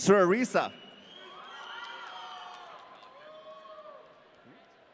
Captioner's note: audience cheering